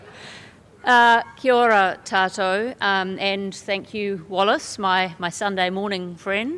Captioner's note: foreign language spoken